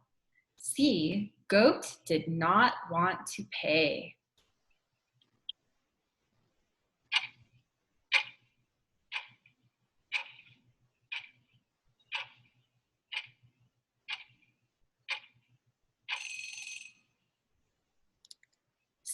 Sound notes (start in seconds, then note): 6.5 clock ticking; 16.2 bell rings